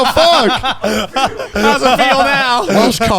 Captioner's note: laughs